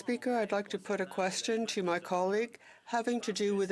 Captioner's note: speaking French